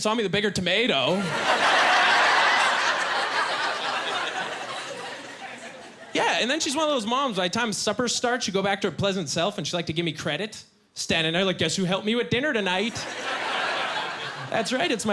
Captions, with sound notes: looked back, and saw me with a bigger tomato. (Laughing) Yeah, and then, she's one of those moms by the time supper starts, she'd go back to her pleasant self and she liked to give me credit, Standing there like, "Guess who helped me with dinner tonight?